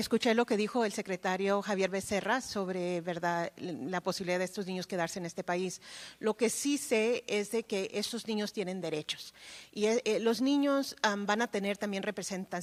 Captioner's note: speaking spanish